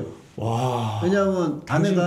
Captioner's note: exclaiming